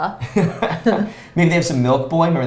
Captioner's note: both chuckles